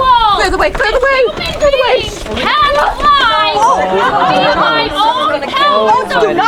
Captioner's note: people chattering